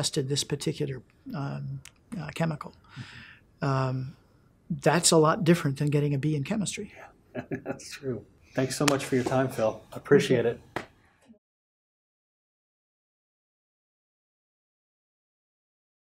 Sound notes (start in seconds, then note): 7.3 laughs